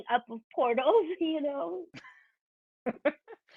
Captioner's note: chuckling